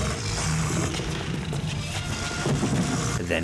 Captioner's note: dinosaur growling; footsteps tapping; body thuds